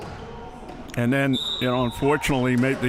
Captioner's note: whistle chirping